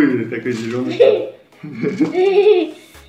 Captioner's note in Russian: Смех